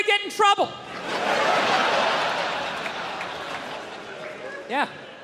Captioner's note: crowd laughs